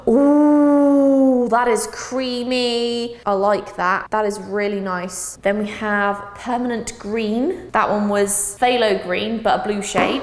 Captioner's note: gasp